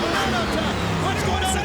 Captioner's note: engine revs